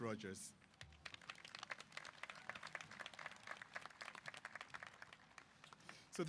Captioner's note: applause